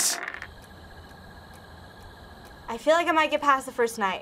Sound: battery rolls; quiet ticking

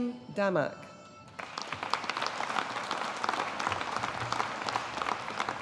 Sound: audience applauding

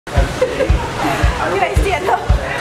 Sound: laughs

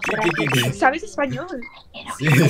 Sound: Spanish

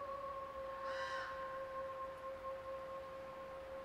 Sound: raven calls

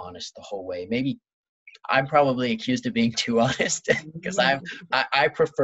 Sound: laughs

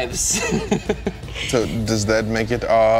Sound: laughing

